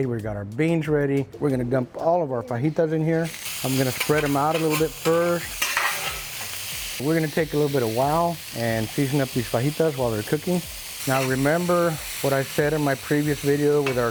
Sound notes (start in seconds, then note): 5.4 spatula scraping; 5.6 sizzling